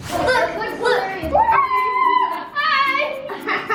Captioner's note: wooshing; loud ghostly noise